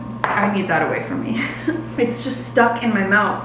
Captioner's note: chuckles